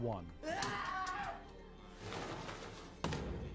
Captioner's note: screaming; thudding